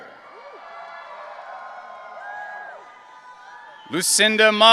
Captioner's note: audience cheering